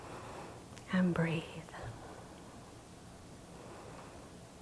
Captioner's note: breathing deeply